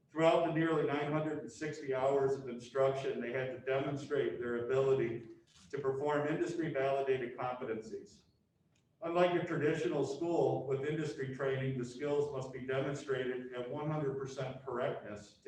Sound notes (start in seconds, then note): none